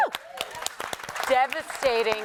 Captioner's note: applause